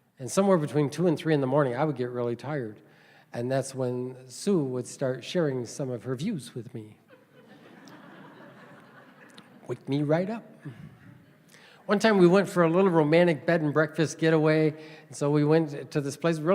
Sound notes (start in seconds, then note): 7.0 laughter